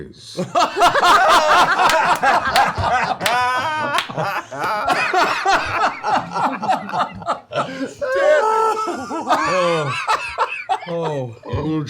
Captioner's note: laughter